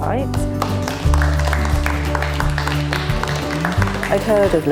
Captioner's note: applause